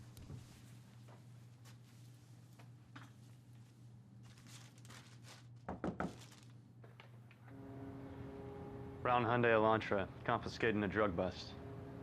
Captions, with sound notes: (fist knocking) - Brown Hyundai Elantra, confiscated in a drug bust.